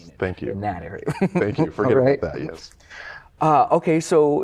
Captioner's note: laughter